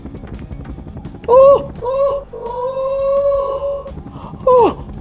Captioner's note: sounds of apes